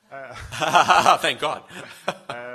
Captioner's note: laughs